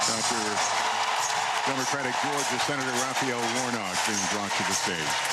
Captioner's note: applause